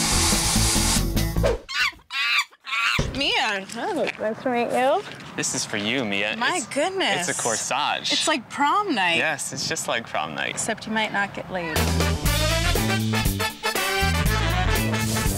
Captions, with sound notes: (monkey screeching) - Mia, nice to meet you. - This is for you Mia, it's-- - My goodness. - It's a corsage. - It's like prom night. - Yes, it's just like prom night. - Except you might not get laid. (upbeat disco music)